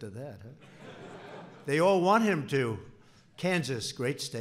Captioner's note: laughter